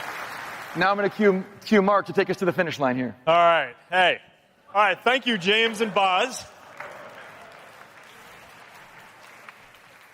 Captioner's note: applause